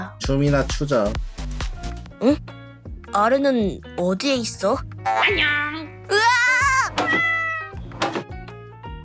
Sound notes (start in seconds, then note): 6.4 meows